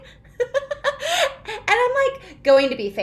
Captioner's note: laughing